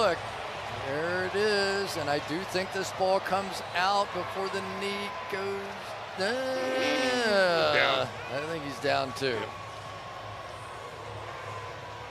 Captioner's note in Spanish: en ingles